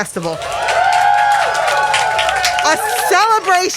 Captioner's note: crowd cheering